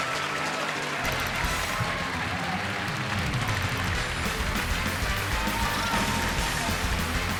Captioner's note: audience applauding; audience cheering